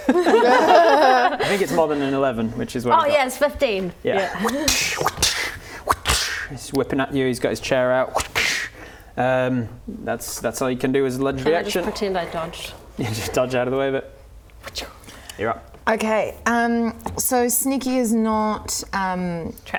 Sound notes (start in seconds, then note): 0.0 suspicious giggles; 4.7 whr-tssh whr-tssh whr-TSSH